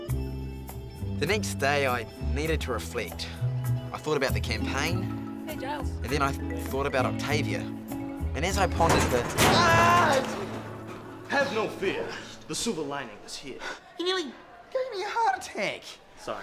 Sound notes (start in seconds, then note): 9.3 screaming